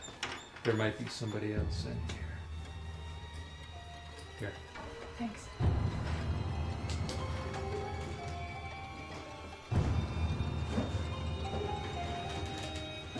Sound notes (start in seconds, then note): none